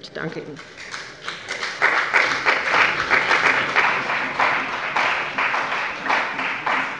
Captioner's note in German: Beifall bei dem BÜNDNIS 90/DIE GRÜNEN und der CDU